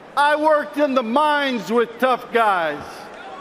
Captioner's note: cheers and applause